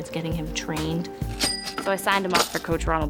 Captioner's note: cash register rings